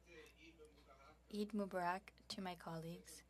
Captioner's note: speaking French